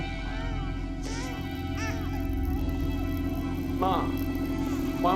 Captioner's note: baby crying